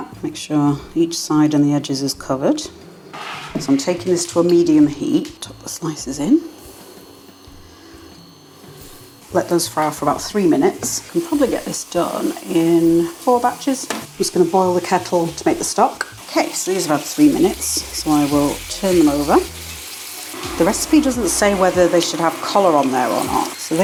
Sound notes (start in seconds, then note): 9.2 sizzling oil